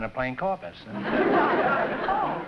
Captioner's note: laughter